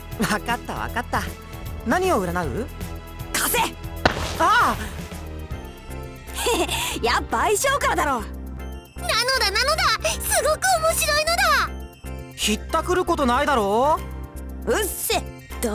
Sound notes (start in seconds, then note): 6.5 chuckle